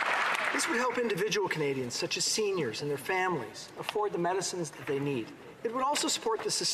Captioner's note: applause